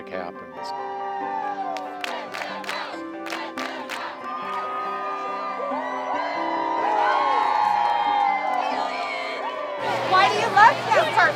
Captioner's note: cheering